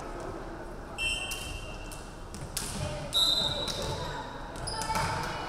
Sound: referee whistling

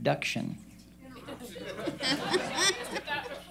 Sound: laughter

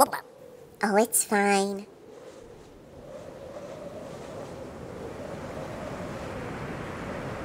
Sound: rushing winds

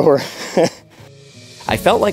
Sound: chuckles

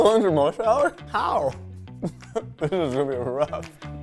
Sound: laughs

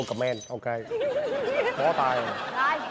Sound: laughter

